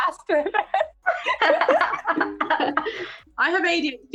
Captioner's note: laughter